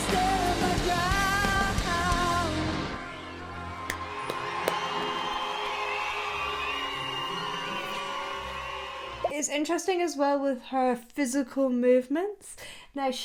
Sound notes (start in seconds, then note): 3.4 ethereal music; 3.6 audience applauding